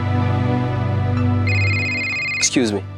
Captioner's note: phone ringing